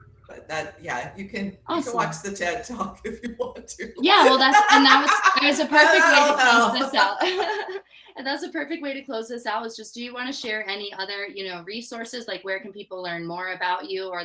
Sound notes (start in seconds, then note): 6.7 both laughing